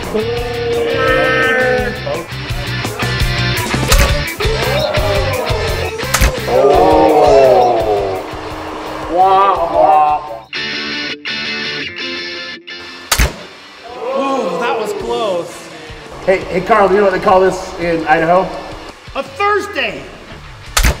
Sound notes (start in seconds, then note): 0.0 imitation Chewbacca noises; 3.2 upbeat music; 6.3 booing; 10.7 upbeat music